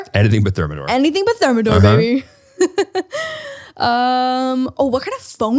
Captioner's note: laughs